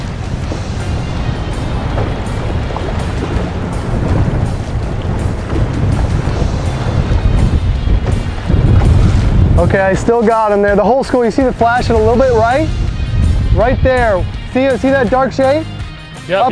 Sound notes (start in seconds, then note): 4.2 wind blowing